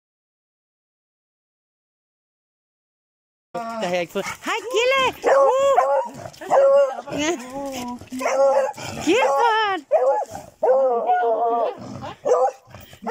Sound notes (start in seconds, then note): 6.1 luod barking; 11.0 beagle howls and barking